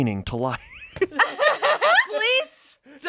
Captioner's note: everyone laughs